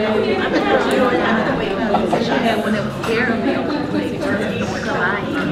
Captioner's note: participants talking at once